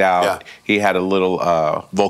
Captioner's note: mimics loud noises